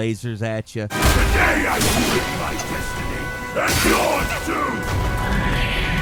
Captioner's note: creatures yelling and growling